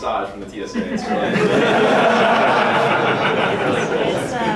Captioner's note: laughing